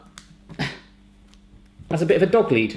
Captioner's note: grunting